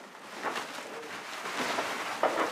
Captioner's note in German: Rascheln